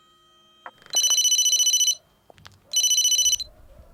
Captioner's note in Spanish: Suena un teléfono